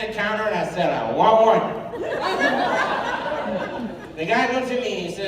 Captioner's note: laughter